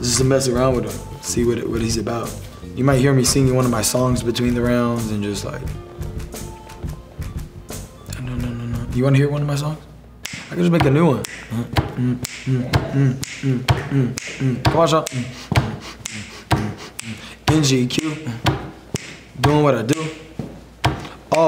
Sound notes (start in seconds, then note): 5.6 hums; 11.2 hums